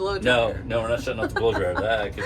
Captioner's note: laughing